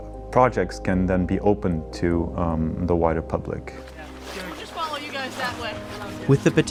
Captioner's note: rescue volunteers talking